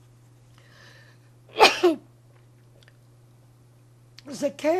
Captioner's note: coughing